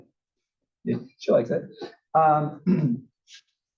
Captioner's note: cough